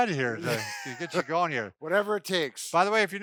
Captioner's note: laughs